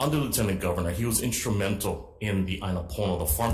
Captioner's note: speaking Hawaiian